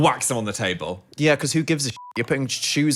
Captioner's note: beep